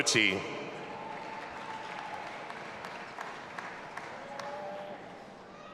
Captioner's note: audience applauding and cheering